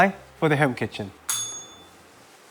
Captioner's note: bell rings